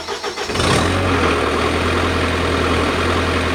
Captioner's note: engine starting